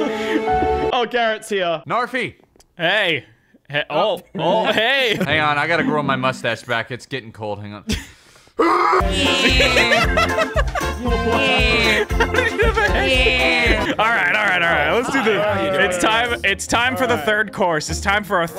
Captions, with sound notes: Oh, Garrett's here. Knarfy! Hey. Oh. Oh. Hey. Hang on, I gotta grow my mustache back. It's getting cold, hang on. (all laughing) All right, all right, all right. Let's do this. It's time for the third course. It's time for our